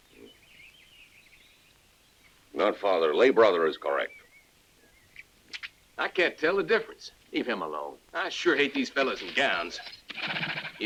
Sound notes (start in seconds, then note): none